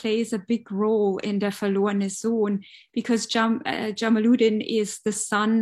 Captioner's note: speaking german